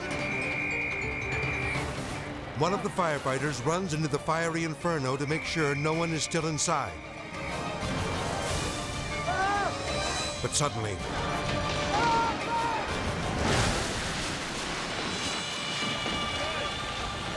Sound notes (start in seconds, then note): 0.0 whistle blowing; 9.1 fireman shouting; 12.6 building collapsing